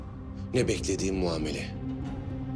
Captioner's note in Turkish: none